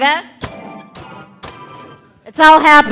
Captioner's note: keyboard ringing